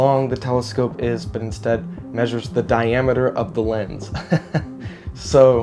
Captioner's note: laughs